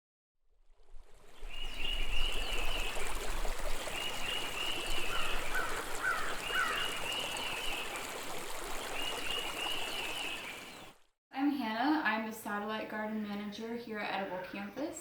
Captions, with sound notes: [Birds chirping and sounds of running water] I'm Hannah. I'm a Satellite Garden Manager here at Edible Campus.